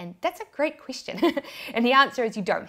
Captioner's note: laughs